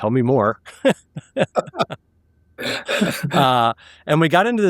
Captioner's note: laughing